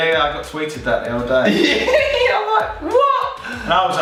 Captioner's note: giggling